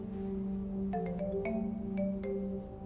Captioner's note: video call ringing